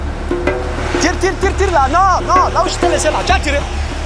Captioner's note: foreign language